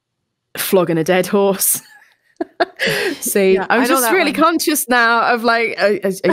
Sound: laughter

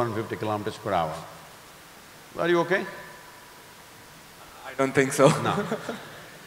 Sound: laughs

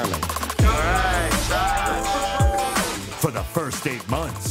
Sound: crowd cheers

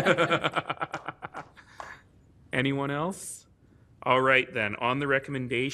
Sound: laughter

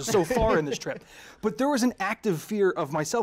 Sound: laughter

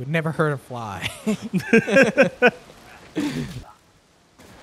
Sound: both laughing

